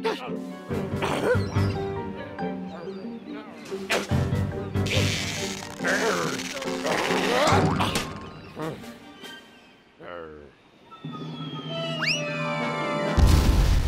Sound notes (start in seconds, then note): 3.7 grunts; 4.8 straining; 8.3 sighs; 11.3 object whistling through air